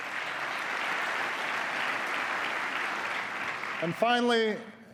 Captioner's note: applause